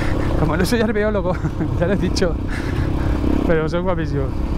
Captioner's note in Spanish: risas